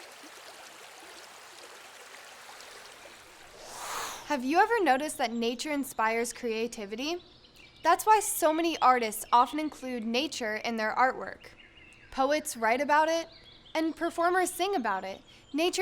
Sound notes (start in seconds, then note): 3.5 air whooshing